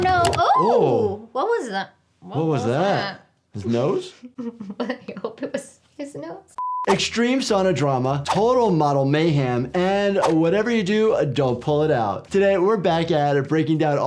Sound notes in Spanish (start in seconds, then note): 3.8 Riéndose; 6.6 pitido de pantalla